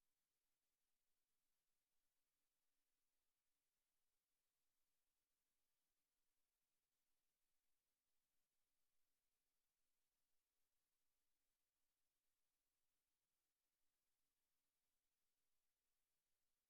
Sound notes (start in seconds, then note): none